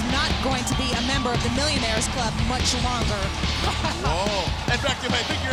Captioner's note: laughs